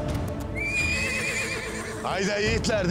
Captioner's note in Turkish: At kişneme sesi